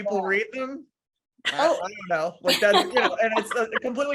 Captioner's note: laughing